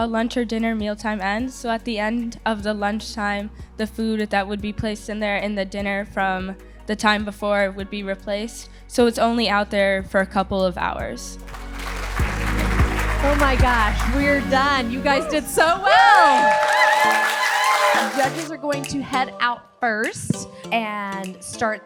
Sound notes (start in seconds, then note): 11.4 audience applauding; 17.8 audience cheering